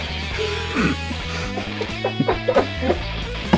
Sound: laughs

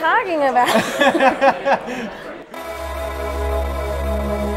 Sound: laughs; jazzy music

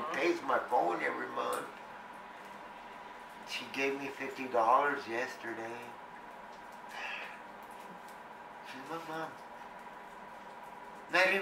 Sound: sighs

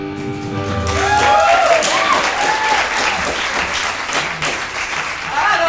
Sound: audience cheering

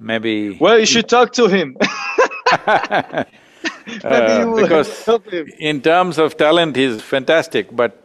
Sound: both laugh

